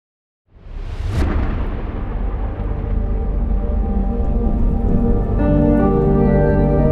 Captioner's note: booming sound; mysterious music